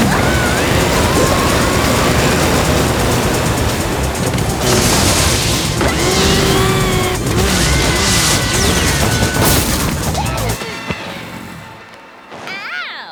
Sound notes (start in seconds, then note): 0.0 crash; 0.8 grunt; 0.8 yelling